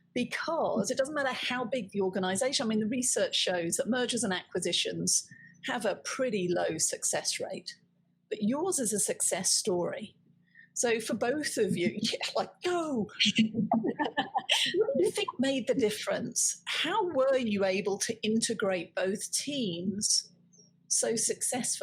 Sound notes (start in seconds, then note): 12.6 winning chant; 13.7 laughing